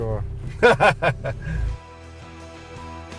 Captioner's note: laughs